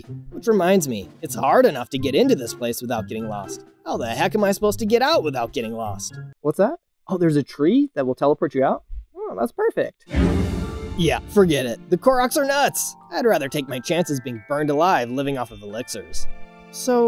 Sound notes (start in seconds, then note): 10.1 danger sound